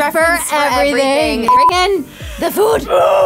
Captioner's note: beep